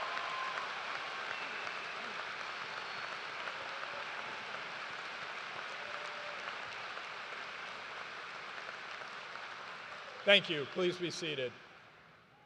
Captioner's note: cheers and applause